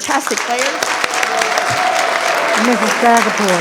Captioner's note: audience applauds